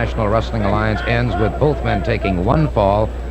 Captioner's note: announcer shouting